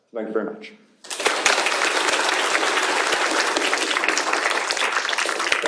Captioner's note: applause